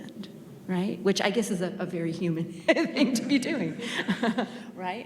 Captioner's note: chuckles